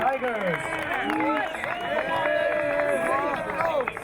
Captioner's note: crowd cheering